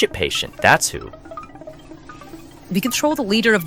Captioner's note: mopping sounds approach